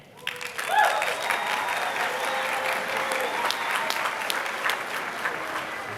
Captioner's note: applause